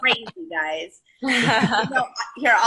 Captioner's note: laughing